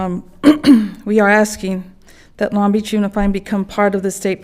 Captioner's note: coughs